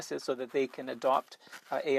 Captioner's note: speaking French